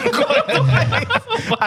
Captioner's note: laughing